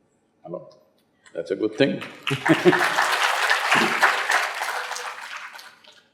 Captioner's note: laughs/Applause